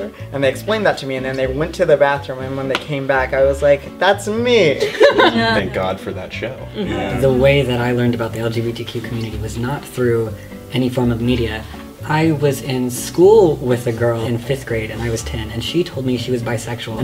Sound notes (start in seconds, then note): 4.8 laughter; 6.7 various noises of agreement